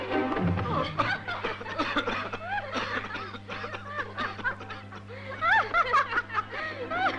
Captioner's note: women laughing; coughing